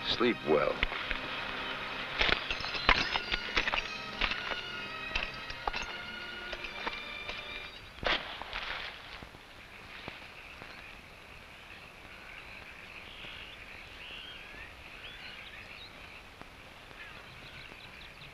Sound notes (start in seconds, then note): 2.0 spurs rattling; 9.4 insects chirping; 10.7 frogs croaking